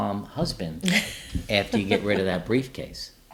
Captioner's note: laughing